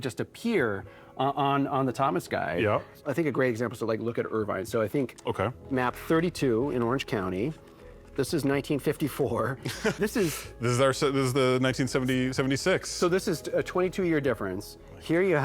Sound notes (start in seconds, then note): 9.6 laughs